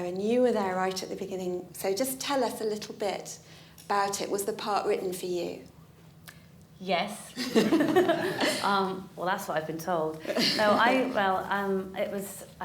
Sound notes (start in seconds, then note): 7.4 laughter